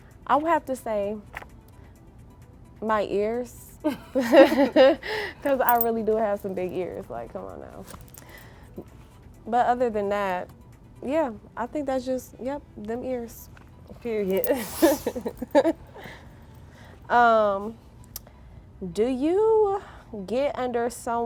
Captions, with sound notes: - I would have to say my ears, because I really do have some big ears, like come on now. But other than that, yeah, I think that's just, yep, them ears. (girls giggling) "Do you get under someone?"